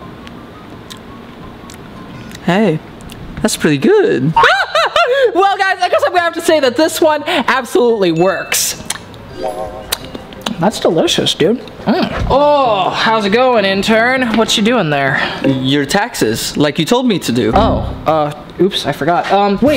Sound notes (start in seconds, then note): 6.4 laughing